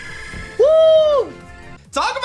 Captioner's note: screams